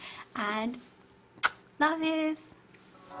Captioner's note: blows a kiss